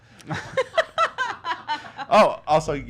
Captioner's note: laughing